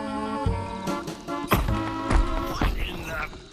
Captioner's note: donk, thump